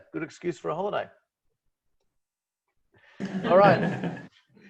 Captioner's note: laughs